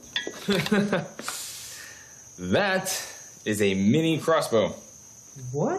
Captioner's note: laughs